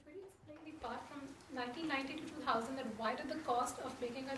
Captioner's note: voiceover